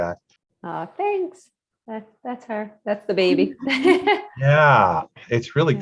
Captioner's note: laughs